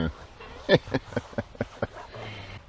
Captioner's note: laughing/chuckle